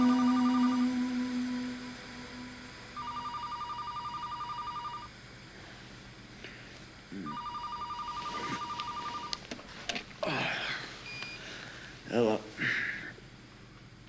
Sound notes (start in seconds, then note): 7.2 phone rings